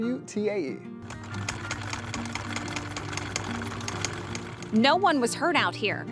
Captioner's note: sewing machine whirring